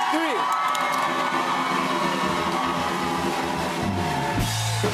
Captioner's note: cheers and applause